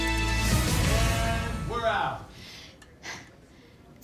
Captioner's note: sighs